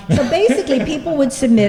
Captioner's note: laughter